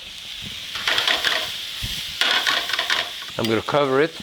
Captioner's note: brussels sprouts sizzling